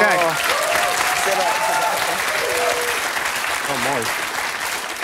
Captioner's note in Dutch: applaus